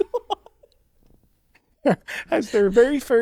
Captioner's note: laughing